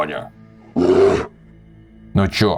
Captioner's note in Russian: Немножно сожалеющий рёв